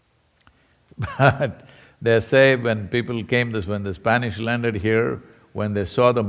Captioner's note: laughs